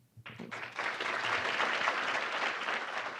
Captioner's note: clapping